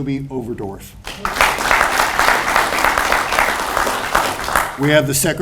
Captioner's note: audience applauds